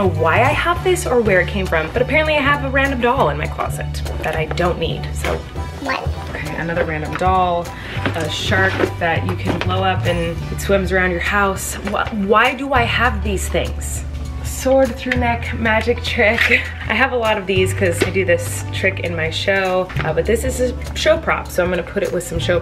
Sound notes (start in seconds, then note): 16.4 laughing